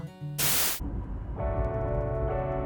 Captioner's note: static